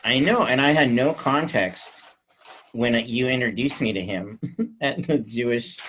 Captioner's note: chuckles